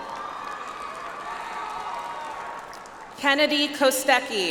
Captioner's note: audience applauds